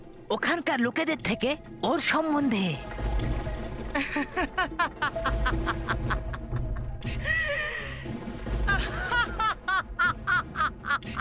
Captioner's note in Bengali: সশব্দ হাসি